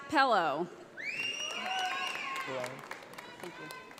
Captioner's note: audience applauding